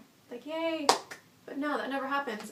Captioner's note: claps